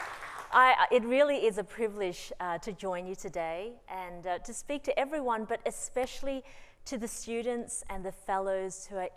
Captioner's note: applause